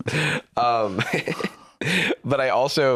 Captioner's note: laughs